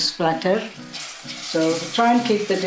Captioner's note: sheero sizzling